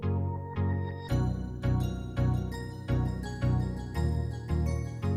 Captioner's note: gently chiming bells